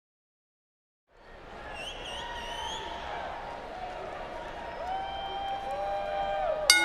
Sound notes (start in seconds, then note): 2.1 fan whistles